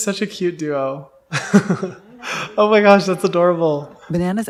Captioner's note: laughs